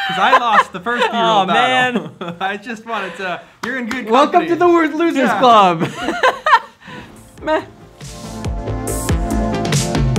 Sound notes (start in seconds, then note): 0.0 laughs; 5.2 laughs